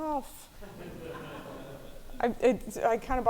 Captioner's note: audience laughing